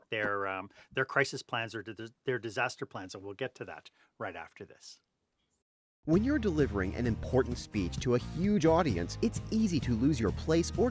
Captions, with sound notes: their crisis plans or their disaster plans. And we'll get to that right after this. [Voiceover] When you're delivering an important speech to a huge audience, it's easy to lose your place